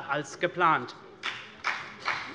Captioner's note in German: Beifall CDU und BÜNDNIS 90/DIE GRÜNEN